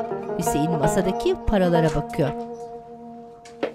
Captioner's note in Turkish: Kapı açılma sesi